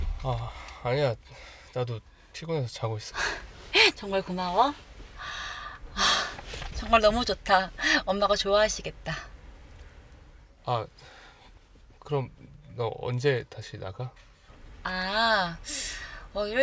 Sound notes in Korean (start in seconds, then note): 5.0 한숨; 5.2 헉 소리